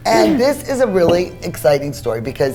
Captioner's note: clears throat